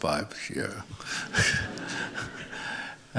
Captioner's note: laughter